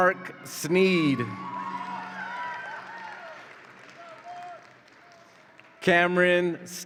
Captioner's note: audience applauds and cheers